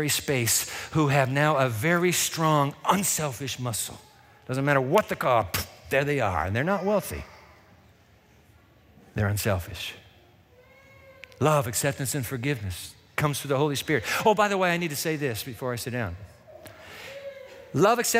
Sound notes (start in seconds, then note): none